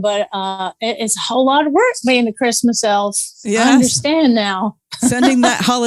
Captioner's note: laughs